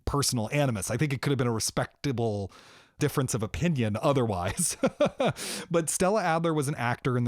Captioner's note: laughter